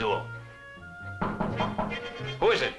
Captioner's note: knocking on door